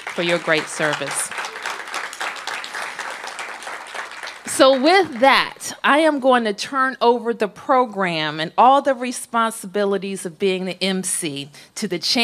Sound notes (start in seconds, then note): 2.1 applause